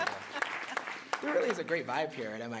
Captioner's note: applause